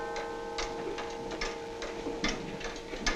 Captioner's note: clock ticking